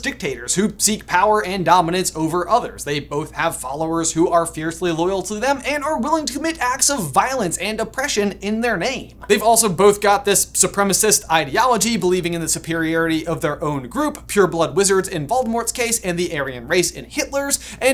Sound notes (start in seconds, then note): none